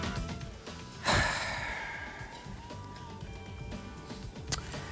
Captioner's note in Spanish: exhala